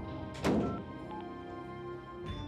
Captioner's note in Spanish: portazo